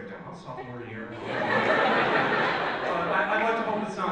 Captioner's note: audience laughs